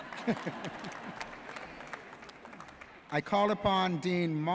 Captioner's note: audience laughs